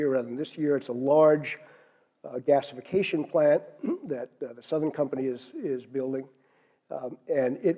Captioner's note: cough